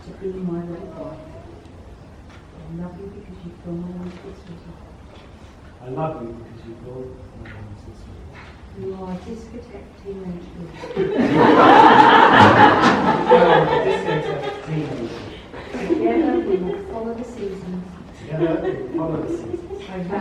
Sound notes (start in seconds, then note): 10.8 laughter